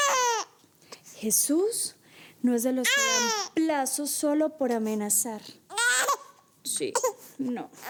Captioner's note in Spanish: Sollozos